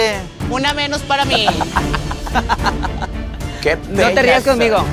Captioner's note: laugh